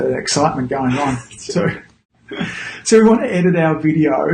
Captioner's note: laughing